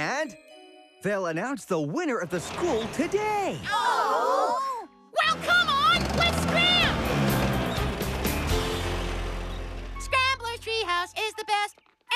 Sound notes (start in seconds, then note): 5.3 machines Groan; 7.3 engines Rev